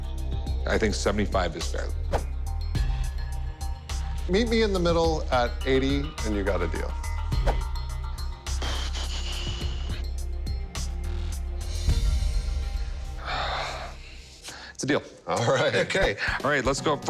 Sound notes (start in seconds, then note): 8.1 exhales deeply; 13.2 sighs